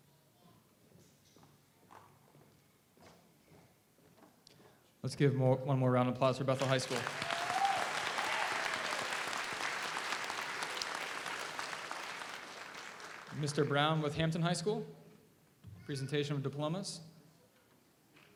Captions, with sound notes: - Let's give one more round of applause for Bethel High School. (audience applauds) (audience cheers) Mr. Brown with Hampton High School, the presentation of diplomas.